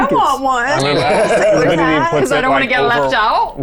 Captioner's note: chuckling